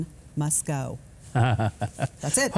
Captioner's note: Huckabee chuckles